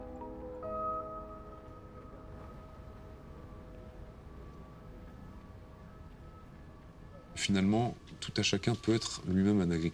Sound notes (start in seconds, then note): 1.1 music stops; 3.9 city sound